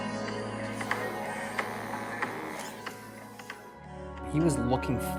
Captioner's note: sniffs